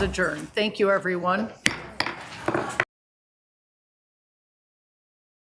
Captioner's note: gavel tapping